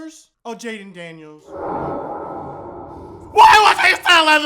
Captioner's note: omnious sounds